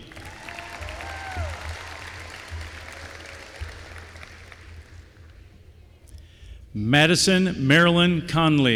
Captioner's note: applause